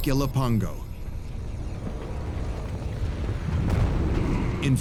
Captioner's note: deep rumble; ominous music